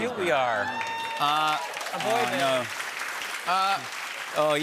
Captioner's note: cheers and applause